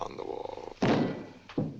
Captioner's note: thumps on the table